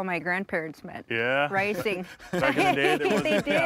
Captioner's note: everyone laughs